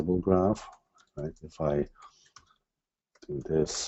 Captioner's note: types softly